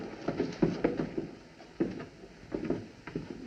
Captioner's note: footsteps Descending Stairs